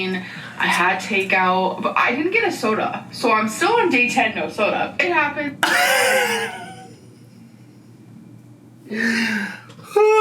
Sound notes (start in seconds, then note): 5.7 laughs